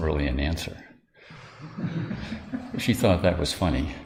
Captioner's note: sangha laughter